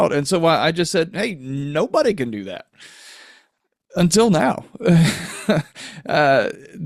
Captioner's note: chuckles